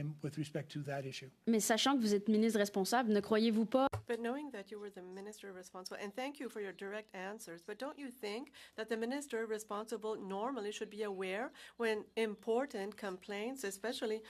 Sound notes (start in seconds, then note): 6.4 speaking French